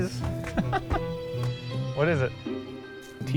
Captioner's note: laughs